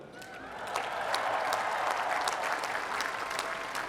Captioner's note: applause